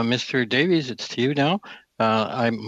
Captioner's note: speaking French